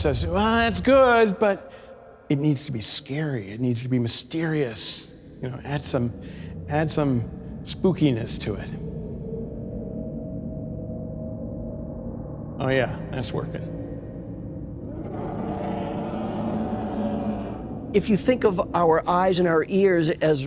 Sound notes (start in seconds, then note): 8.9 eerie sounds; 14.8 alien monster cry